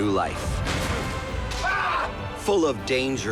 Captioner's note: screams